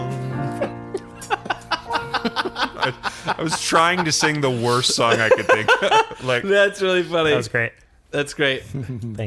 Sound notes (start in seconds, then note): 3.5 laughs